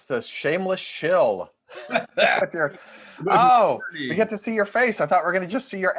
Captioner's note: laughter